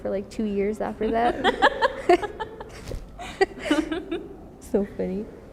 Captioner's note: both laugh